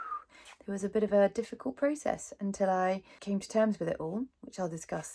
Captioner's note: whistles